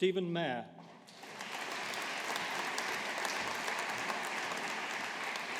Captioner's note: audience applauding